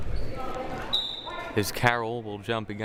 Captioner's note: whistle blaring